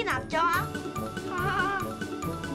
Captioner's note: hahaha~